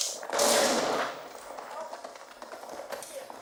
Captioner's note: loud crash